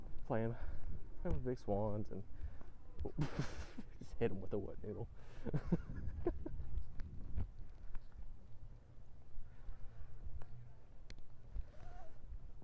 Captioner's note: chuckles; laughs